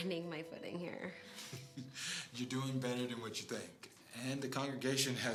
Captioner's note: chuckle